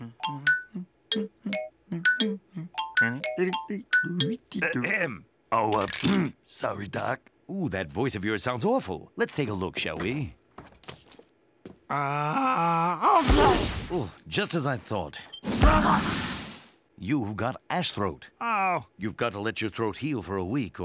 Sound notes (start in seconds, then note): 0.0 Ivan humming; 4.4 ahem; 12.9 coughing; 15.5 cough